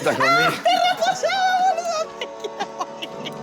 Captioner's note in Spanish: Riendo